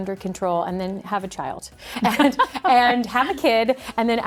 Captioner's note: laughs